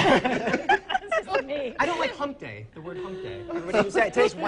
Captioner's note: laughs